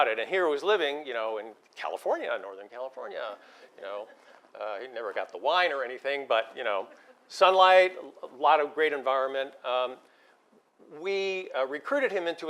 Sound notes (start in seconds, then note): 3.5 laugh